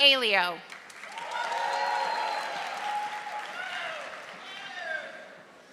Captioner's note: audience applauding